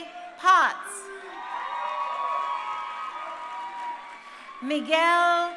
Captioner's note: crowd cheering